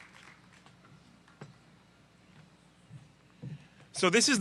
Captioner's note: applause